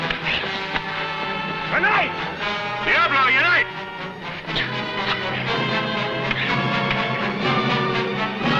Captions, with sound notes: A knife! Diablo, your knife! (weapons whooshing)